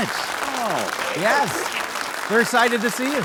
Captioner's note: audience applauding